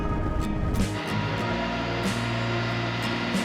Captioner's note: motor sounds from missile launcher